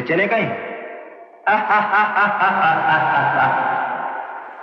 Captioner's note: Laughing